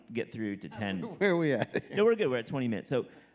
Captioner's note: laughs